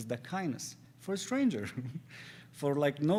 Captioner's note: laughs